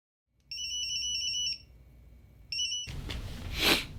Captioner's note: pager ringing